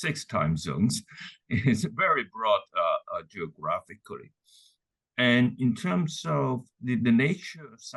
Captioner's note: laugh